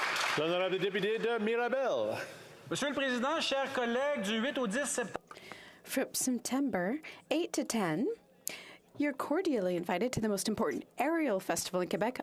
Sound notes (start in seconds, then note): 0.0 some Applause; 8.9 speaking French